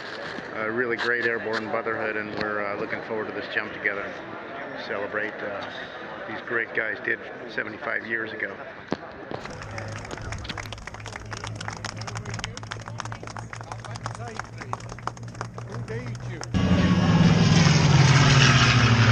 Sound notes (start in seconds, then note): 10.3 clapping; 16.7 noise of airplane overhead